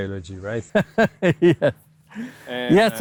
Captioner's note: laughing